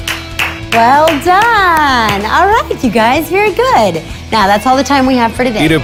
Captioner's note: clapping